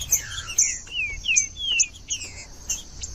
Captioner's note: trinca ferro cantando